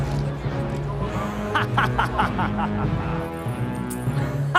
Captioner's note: laughs